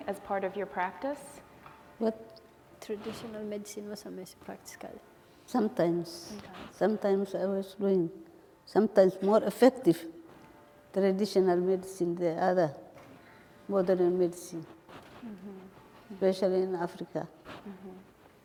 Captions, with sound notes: as part of your practice? (speaking foreign language) - Sometimes. Sometimes I was doing. Sometimes more effective, traditional medicine, than other modern medicine. Especially in Africa.